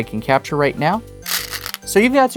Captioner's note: stones rattling